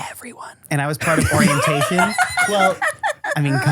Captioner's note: laugh